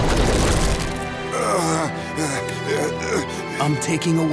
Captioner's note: groaning